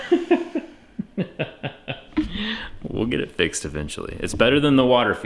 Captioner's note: laughing